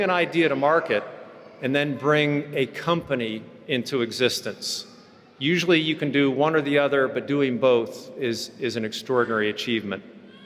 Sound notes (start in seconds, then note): none